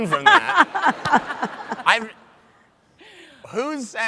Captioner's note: laughs